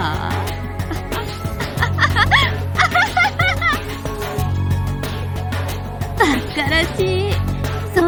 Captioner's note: laughs